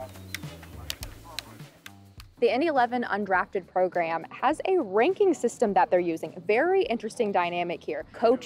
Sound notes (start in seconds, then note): 1.2 ball thudding